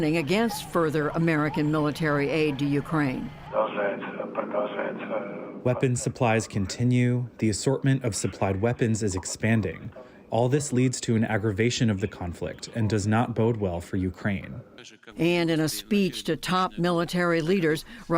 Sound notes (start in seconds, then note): 3.6 speaking in foreign language